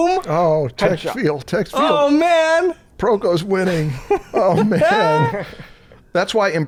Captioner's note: chuckles